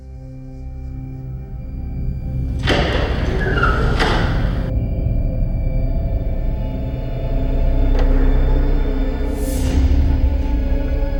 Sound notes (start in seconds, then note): 0.2 eerie music; 2.3 door banging; 8.5 tense music